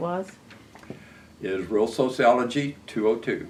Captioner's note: none